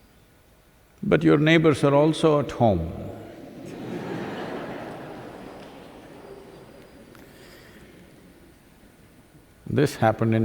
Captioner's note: laughter